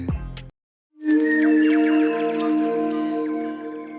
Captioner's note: birdsong